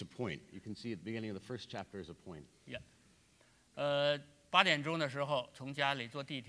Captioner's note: speaking in Chinese